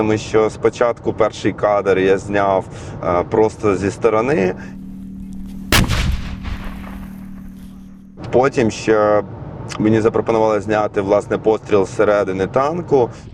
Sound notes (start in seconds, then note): 5.6 sound of gunshot